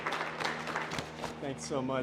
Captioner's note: applause